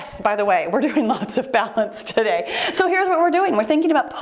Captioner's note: laughing